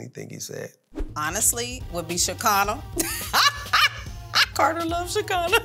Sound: laughs

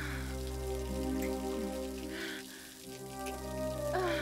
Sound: Ellen moaning

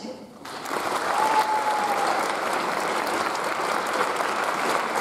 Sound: audience applauds

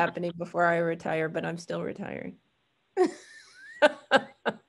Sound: laughs

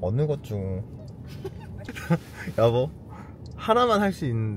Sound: laughing

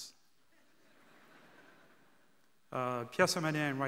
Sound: audience laughing

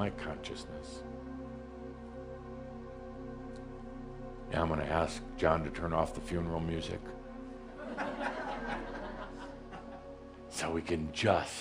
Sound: some giggles

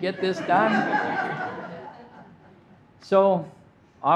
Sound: audience laughing

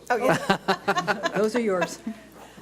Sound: board laughs

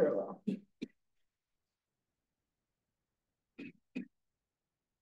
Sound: student coughing

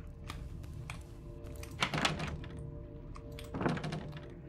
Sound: door Rattles

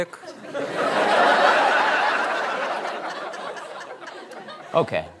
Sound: laughter

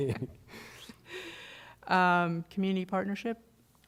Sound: laughter

